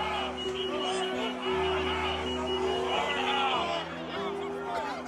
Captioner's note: yelling continues